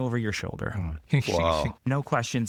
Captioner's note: laughing